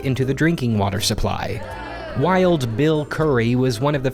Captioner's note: audience lets out an 'ewwww' sound